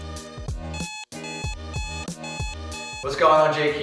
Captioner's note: upbeat music; alarm beeping